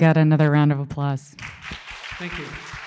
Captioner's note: applause